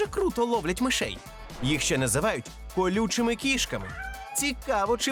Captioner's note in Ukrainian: нявкіт